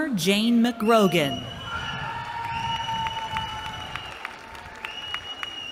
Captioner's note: cheering